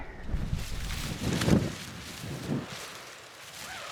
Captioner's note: wind